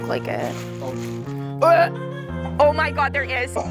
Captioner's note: gagging; laughing